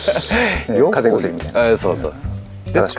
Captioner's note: laughs